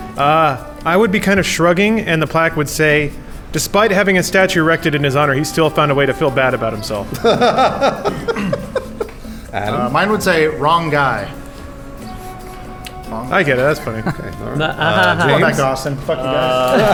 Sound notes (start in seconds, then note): 7.0 laughing; 14.3 noises of disapproval